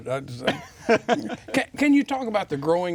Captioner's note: chuckles